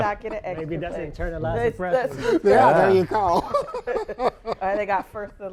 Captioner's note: chatter and laughter